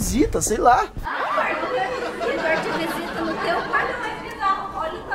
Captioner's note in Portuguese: Risos